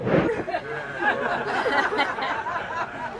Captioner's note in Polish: śmiech